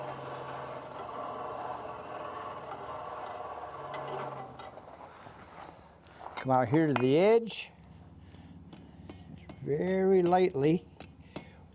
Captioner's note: whirring